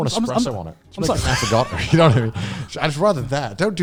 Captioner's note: laughing